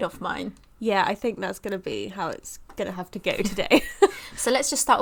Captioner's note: laughs